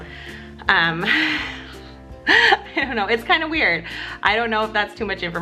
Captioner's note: laughs